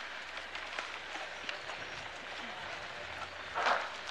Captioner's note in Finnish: Aplodeja